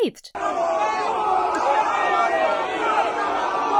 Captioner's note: demonstrators yelling